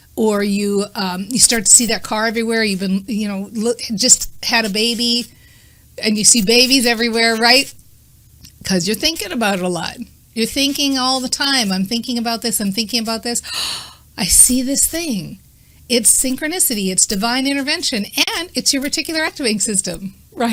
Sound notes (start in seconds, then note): 13.4 gasping